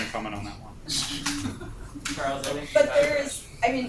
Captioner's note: laughter